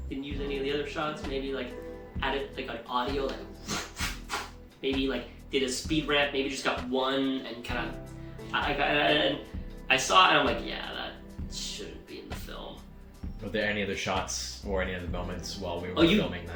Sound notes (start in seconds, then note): 3.6 whooshing